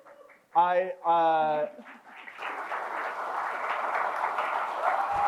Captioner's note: crowd cheers